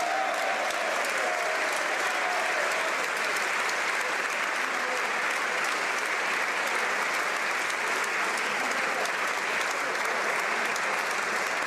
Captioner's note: cheering/Applause